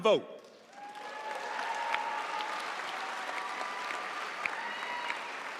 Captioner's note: audience cheering and applauding